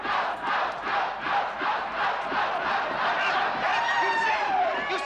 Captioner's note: Повторяет быстрее